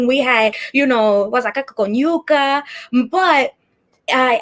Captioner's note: speaking Spanish